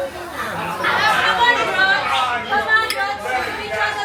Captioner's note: crowd shouting